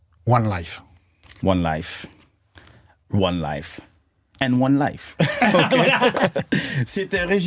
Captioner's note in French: Rires